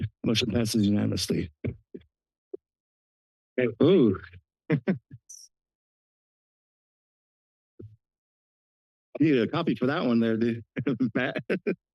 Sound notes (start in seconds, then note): 4.7 laughs